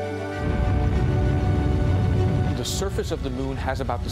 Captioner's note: rocket roaring